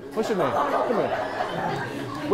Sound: attendees laughing

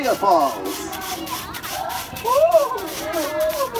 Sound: african themed music; waterfall noises; african themed music

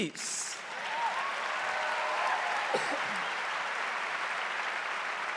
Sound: audience applauding

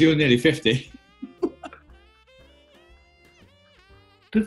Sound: laughing

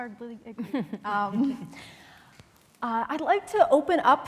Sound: laughter

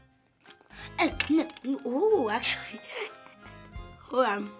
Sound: giggling

